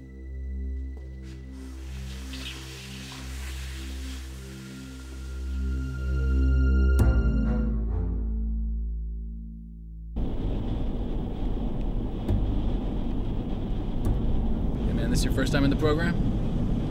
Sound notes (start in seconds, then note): 1.5 scraping; 3.5 ominous music